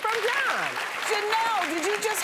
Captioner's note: audience applauds